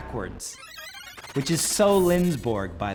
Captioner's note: squeaking